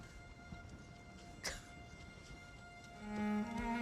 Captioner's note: sobbing